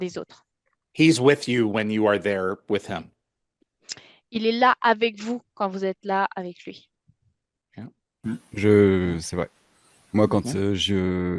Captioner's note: translating from French